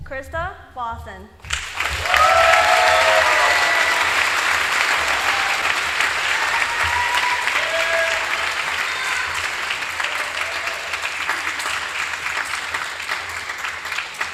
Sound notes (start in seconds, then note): 1.4 applause